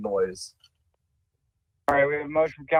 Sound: ~audio distortion~

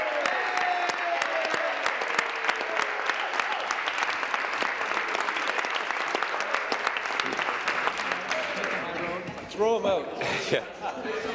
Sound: applause

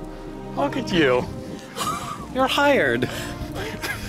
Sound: laughter

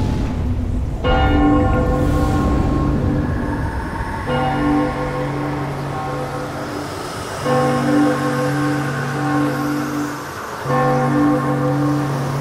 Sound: big bell ringing and wind whooshing

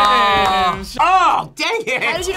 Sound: laughs

